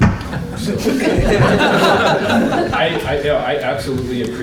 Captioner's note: laughter